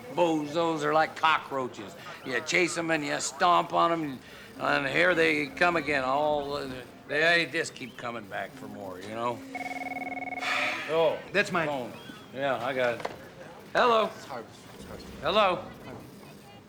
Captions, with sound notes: These bozos are like cockroaches. You chase 'em, and you stomp on 'em, and here they come again, all... They just keep coming back for more, you know? (phone rings) (sighs) Oh. That's my... Phone. Yeah. I got it. Hello? It's Harvey's phone. It's Harvey's phone. Hello? Harvey's phone.